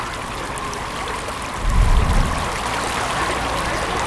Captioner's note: water splashing